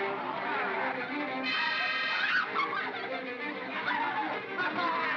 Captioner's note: bogeymen growling; suspenseful music; Bo Peep yelps; Barnaby laughs & growls